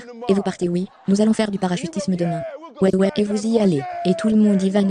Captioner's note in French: rires